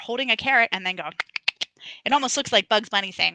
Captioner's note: tongue clicking